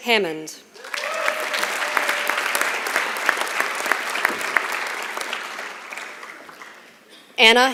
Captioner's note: applause